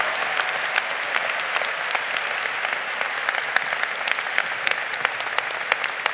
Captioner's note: audience applauding